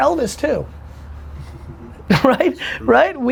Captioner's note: laughing